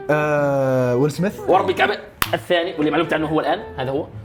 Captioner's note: clapping